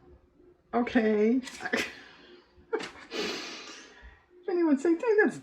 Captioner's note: laughs